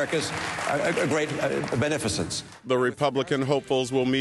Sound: cheering and applause

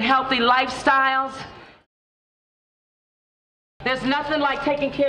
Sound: pause

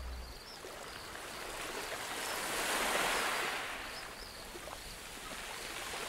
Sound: light ocean ambience

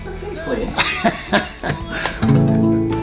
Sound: laughs

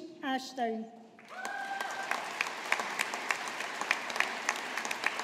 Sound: audience applauding

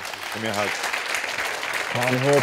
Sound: audience applauding

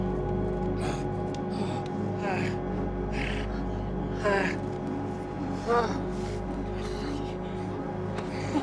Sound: groaning

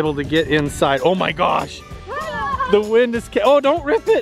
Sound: children yelling

